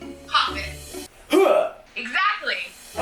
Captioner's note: makes a loud noise